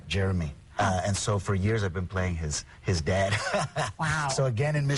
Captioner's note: laughing